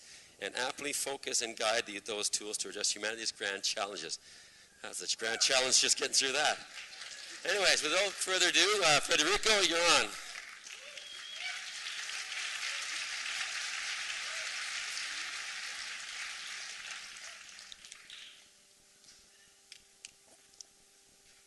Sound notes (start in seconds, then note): 11.6 applause